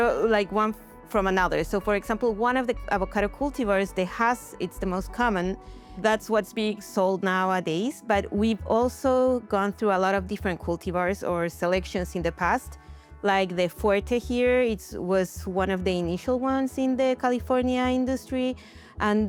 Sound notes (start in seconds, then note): none